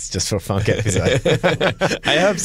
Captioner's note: laughter